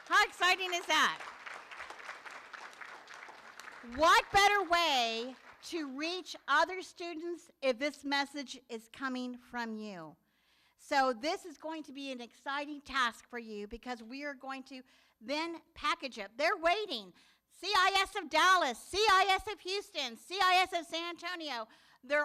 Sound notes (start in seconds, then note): 1.7 room applauds